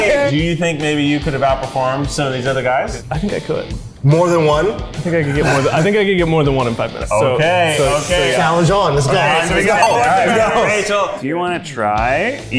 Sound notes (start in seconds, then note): 9.4 all talking excitedly